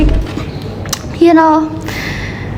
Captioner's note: clicks tongue